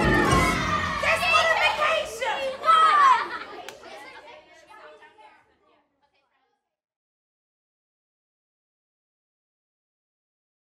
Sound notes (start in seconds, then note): 2.7 kids laugh